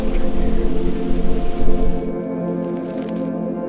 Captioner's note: speaking faintly